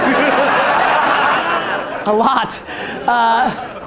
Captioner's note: audience laughter